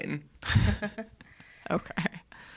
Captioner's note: chuckles